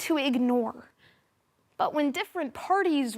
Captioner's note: soft breathing